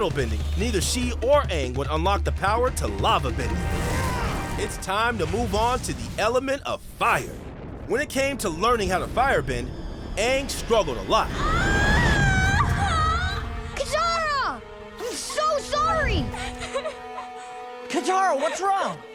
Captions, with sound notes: neither she or Aang would unlok the power to lavabending. It's time to move on to the element of fire. When it came to learning how to firebend, Aang struggled a lot. [screaming] Katara! I'm so sorry! [crying] Katara, what's wrong?